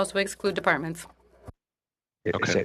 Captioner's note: speaking in French